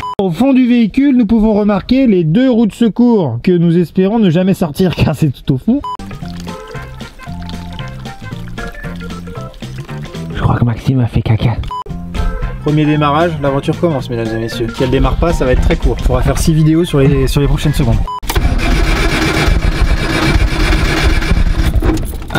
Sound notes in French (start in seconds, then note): 5.9 bruit dans le tuyau